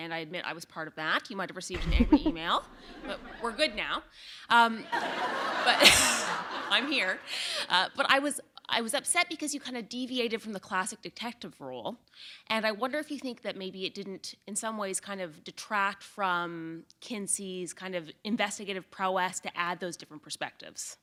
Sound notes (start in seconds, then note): 4.8 laughter